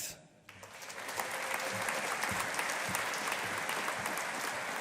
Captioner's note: audience applauding